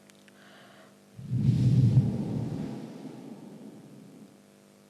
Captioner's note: shree mataji blows into the microphone